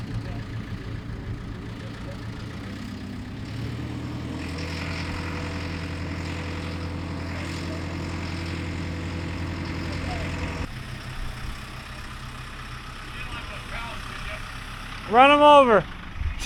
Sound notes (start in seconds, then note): 0.0 engine running; 4.1 engine revving